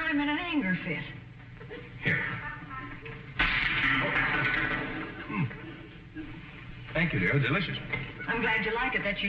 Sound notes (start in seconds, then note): 3.7 cracking; 4.6 audience snickering